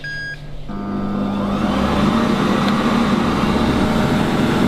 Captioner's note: fan whirring